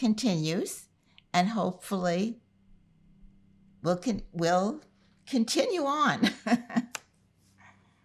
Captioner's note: laughing